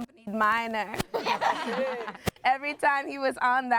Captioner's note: everyone laughs